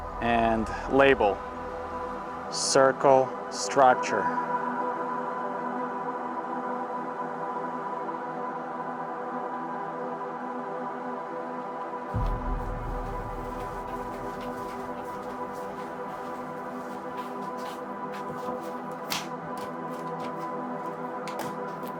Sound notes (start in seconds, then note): 5.4 suspenseful music; 12.7 footsteps; 18.9 folder and lid thuds